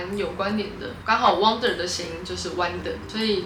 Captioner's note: in Mandarin